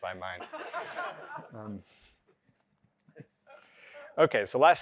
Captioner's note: laughter